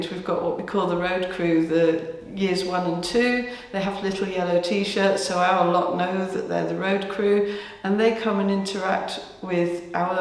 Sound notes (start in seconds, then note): none